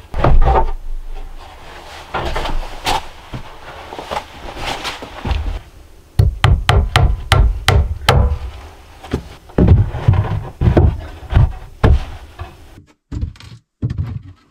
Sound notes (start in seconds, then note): 0.1 boards clattering; 6.2 hammer thumping; 9.5 boards clattering